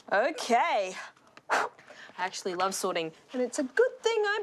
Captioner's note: blows